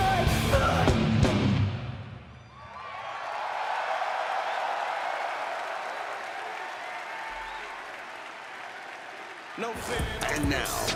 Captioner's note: crowd cheering